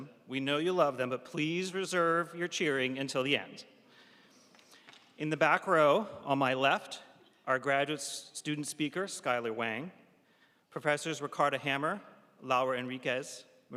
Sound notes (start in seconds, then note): none